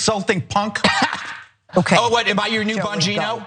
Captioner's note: laugh